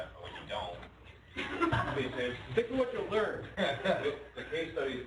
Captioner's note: laughter